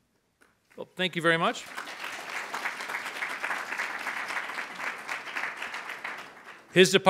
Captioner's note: audience applauds